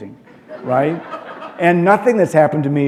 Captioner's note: laughter